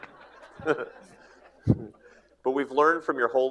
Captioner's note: laughs